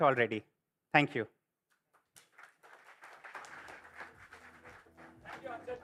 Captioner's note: applause